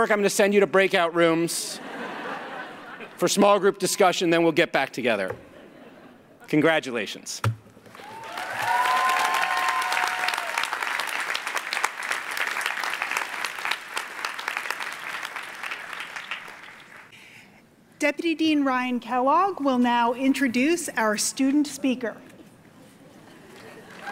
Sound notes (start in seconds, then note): 7.9 cheering; 10.5 applause; 23.9 applause